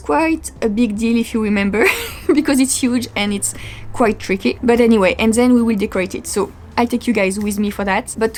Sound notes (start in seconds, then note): 1.8 laugh